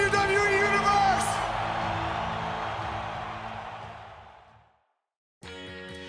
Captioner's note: crowd cheering